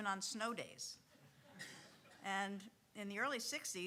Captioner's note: audience chuckling